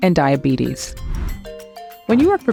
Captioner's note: transition whooshing